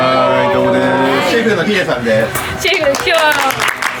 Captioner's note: applause